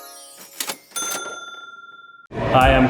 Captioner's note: ding